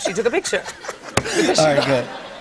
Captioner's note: laughter